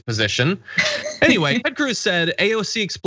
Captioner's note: laugh